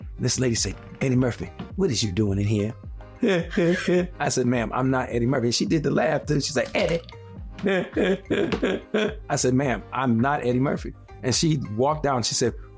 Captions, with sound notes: This lady said, "Eddie Murphy, what is you doin' in here?" [laughing] I said, "Ma'am, I'm not Eddie Murphy." She did the laugh, then she's like, "Eddie." [laughing] I said, "Ma'am, I'm not Eddie Murphy." And she walked out and she said,